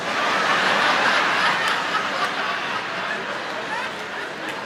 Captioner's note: audience laughing